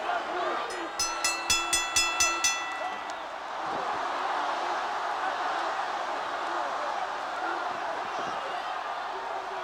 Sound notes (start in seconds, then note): 0.7 bell rings; 6.0 crowd cheering